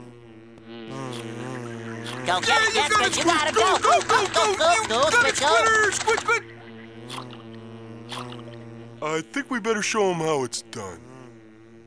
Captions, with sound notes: [buzzing] [cheering] [buzzing] I think we better show him how it's done.